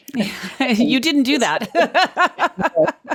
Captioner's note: laughs